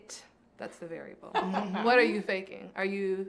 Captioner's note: laughs